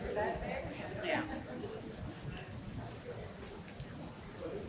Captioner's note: audience chatter continues